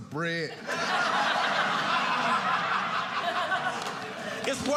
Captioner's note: audience laughing